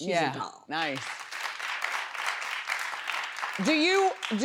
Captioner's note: audience claps